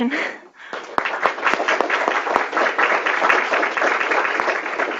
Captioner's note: audience applause